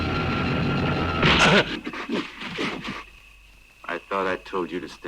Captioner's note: blow thuds